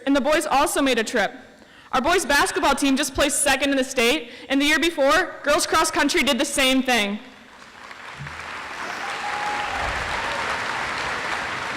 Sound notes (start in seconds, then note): 7.5 audience applauds